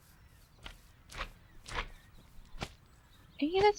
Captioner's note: slimy jumping noise